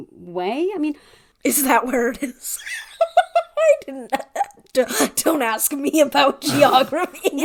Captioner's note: laughing